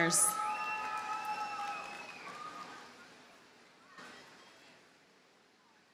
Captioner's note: audience cheers and applauds